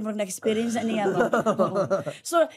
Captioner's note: chuckling